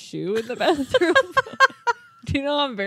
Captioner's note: laughing